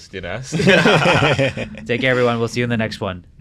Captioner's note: group laughing